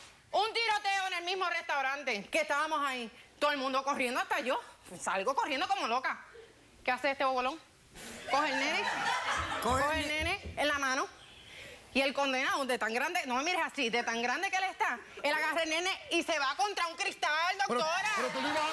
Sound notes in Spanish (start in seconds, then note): 8.4 carcajadas